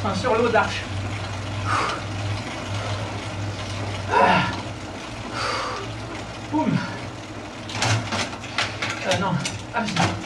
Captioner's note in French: soufflements